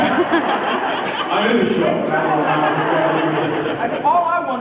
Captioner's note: laughs